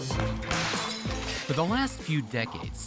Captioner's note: glass shatters